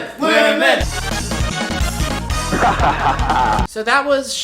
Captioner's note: chanting